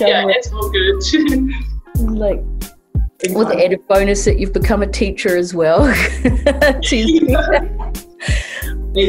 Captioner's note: laughter